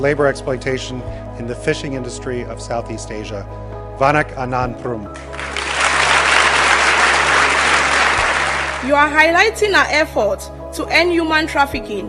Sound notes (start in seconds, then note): 5.1 applause